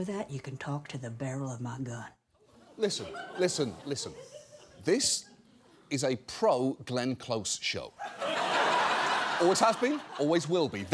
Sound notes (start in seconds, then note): 3.7 scattered laughter; 8.0 studio audience laughing